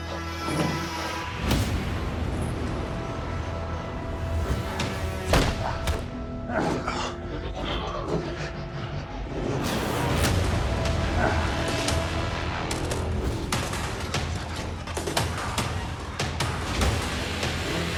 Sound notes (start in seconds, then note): 0.2 dramatic music; 5.3 loud crunch; 10.3 dramatic music